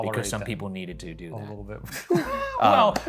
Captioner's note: chuckles; chuckling; palms clapping